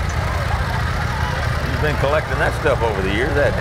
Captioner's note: revving continues